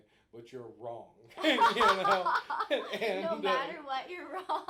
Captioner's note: both laughing